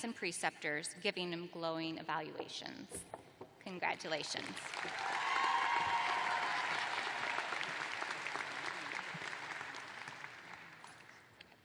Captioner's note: cheers and applause